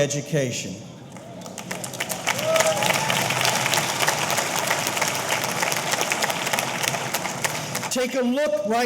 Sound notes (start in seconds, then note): 1.1 audience applauding; 1.2 audience cheering